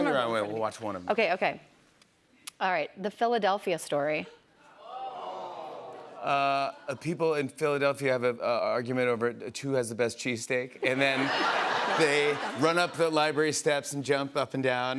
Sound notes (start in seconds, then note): 4.7 audience groans; 10.8 laughter